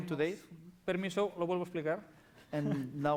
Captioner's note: non-english speech